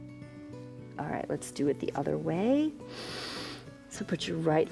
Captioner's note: inhales